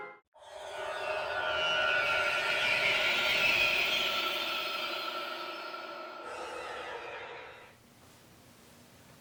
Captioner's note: scary sound